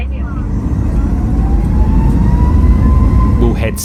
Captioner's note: aeroplane engine